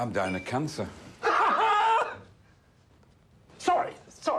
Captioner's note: Maurice laughing